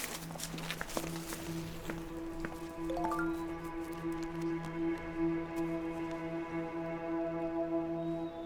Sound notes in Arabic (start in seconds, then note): 3.0 صوت تنبيه الهاتف; 5.3 موسيقى متوترة